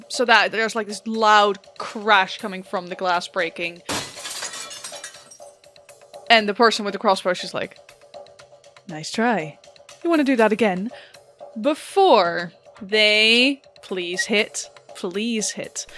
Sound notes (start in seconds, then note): 3.8 glass breaking